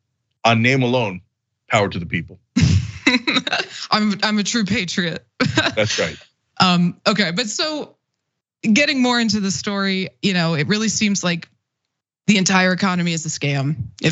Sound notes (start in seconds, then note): 5.3 laugh